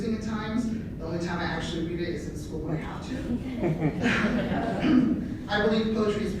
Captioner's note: laughter